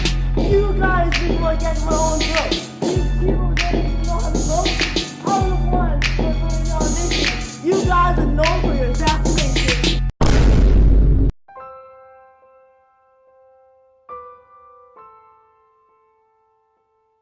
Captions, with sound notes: You guys make me want to gag my own throat. Did the people even know how to vote? I am known for building our nation. You guys are known for your assassinations. *Gunshot*